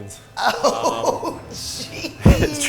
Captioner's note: laughing